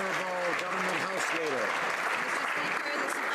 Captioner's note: some Applause